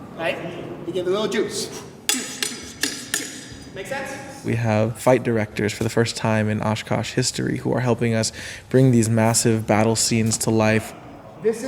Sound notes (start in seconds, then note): 2.1 blades clanking